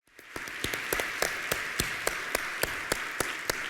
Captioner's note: applause